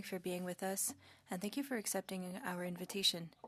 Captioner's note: speaking French